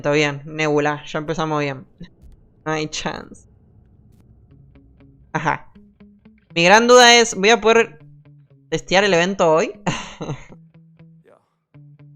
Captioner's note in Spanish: risas